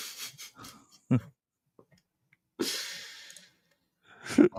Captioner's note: laughter